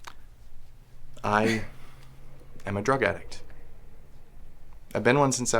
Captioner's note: Lucy chuckles